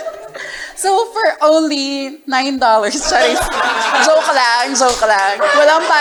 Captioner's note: laughter